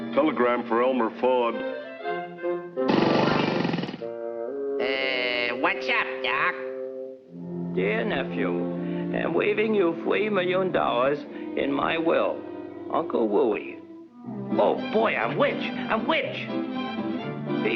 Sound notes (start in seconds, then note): 2.9 scooter puttering